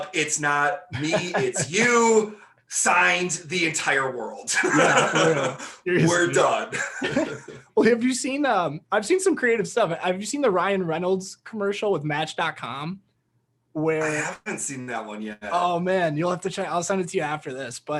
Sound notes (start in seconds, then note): 4.5 laughing